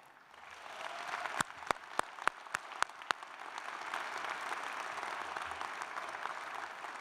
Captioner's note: applause